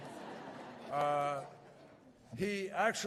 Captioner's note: laughter